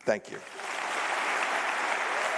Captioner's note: applause